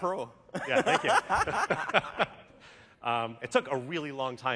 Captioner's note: laughter